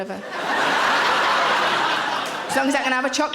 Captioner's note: audience laughing